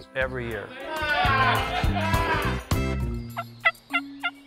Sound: cheering; mock hunting calls

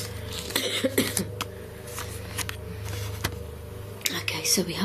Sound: coughs

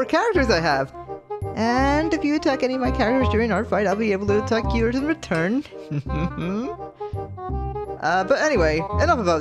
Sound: mischievous laugh

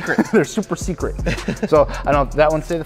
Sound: laughs

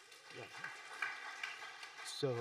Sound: audience applauding

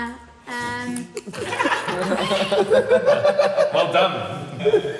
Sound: guys laughing

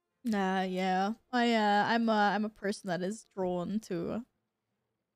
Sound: Yul Brenner voice

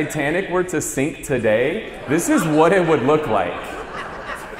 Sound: audience laughs

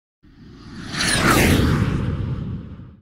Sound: plane engine roars

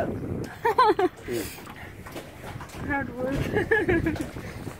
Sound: laughs

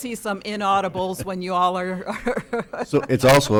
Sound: chuckling

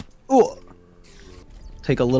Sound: grunts

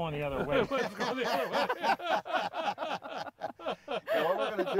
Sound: laughing

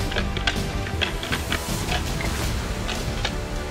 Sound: rattling antlers

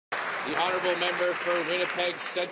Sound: clapping

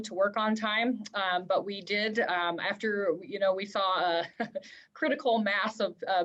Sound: laughter

